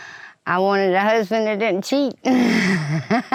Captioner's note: laughs